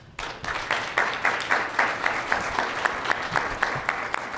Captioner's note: audience clapping